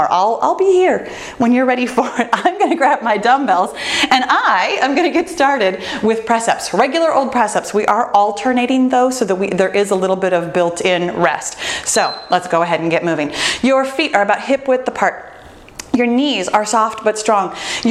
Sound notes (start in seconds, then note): 12.0 bell dinging